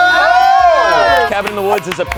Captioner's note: all screaming